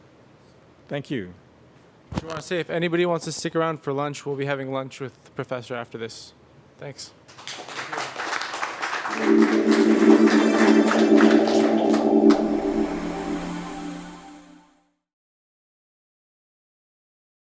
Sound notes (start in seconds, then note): 7.2 applause